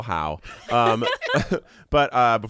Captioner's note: everyone laughs